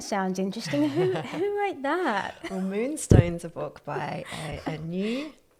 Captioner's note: laugh